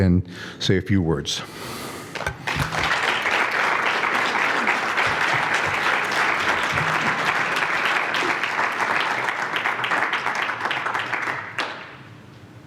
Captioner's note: applause